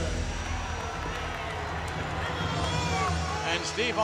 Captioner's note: crowd chattering